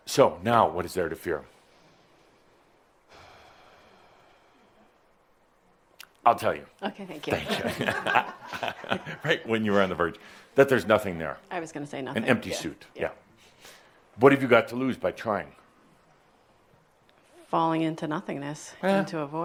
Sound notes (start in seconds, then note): 7.3 chuckles